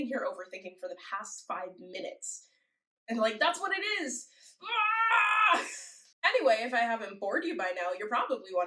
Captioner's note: groan